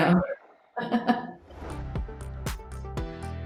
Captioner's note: laughs